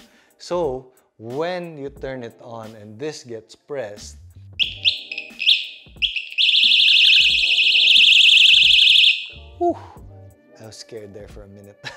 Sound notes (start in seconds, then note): 4.6 alarm ringing